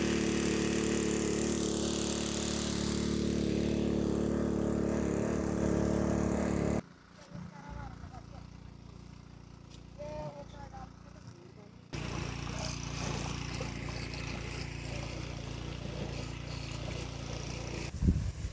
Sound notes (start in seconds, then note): 12.0 sound of water motor and sound of water filling from hose; 18.0 sound of sprinkler while spraying